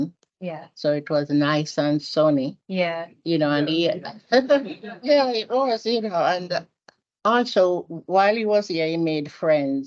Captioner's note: audience and panel laughs